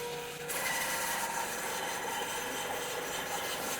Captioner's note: saw whizzing